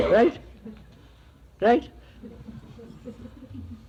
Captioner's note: laughter